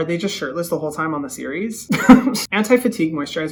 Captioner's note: chuckles